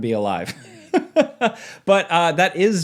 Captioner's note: laughs